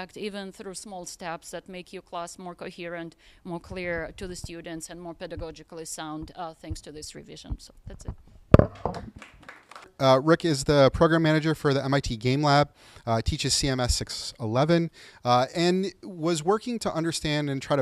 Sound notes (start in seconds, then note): 8.7 group applauding